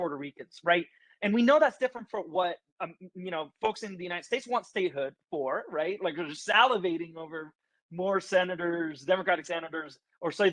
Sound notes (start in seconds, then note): none